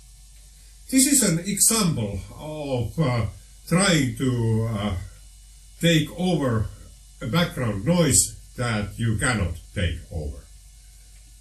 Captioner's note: audio with bass and treble boosting